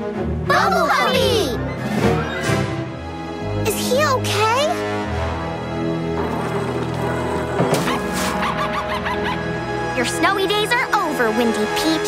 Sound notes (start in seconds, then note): 6.0 growling; 7.2 barking